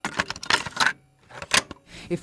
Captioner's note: cassette Tape Sound